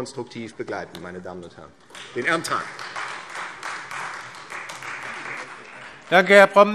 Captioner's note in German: Beifall Freie Demokraten